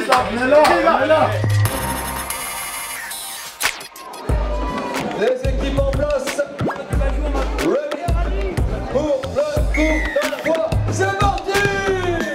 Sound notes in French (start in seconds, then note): 0.3 le speaker parle dans le micro